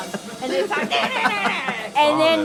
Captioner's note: imitates guitar